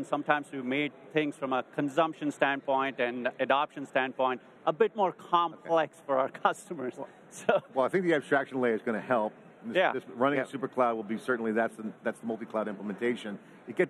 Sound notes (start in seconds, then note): 7.3 chuckles